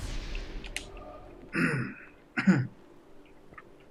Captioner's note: clears throat